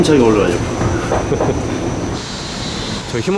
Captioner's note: laughs